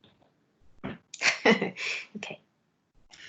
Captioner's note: laughs